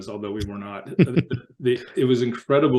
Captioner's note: laughter